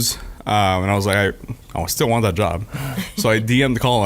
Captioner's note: laughing